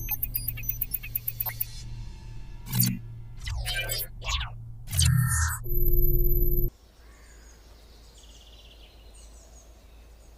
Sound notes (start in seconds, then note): none